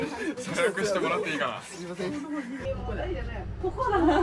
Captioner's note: laugh